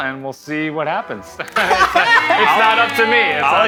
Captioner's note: cheering and laughter